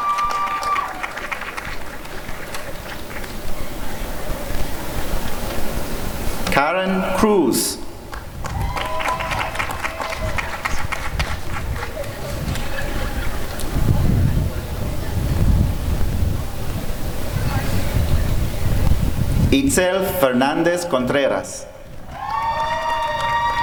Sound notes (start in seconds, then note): 0.0 applause and cheering; 9.8 applause and cheering